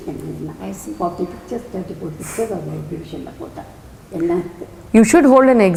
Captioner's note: in Tamil